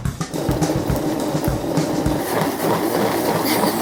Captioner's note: blender whirring